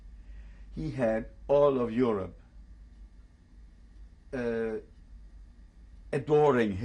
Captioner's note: pauses for 3 seconds